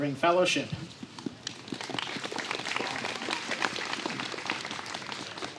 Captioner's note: applause